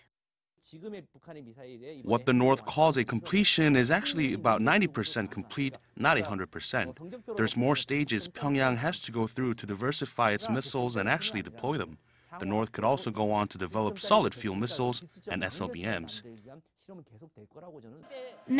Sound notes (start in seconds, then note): 0.7 Korean